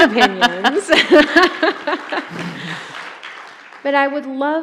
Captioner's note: both laughing; audience applauding